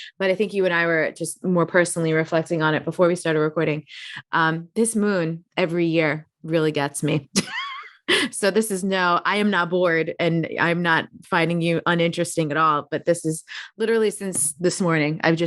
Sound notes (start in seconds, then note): 7.4 chuckling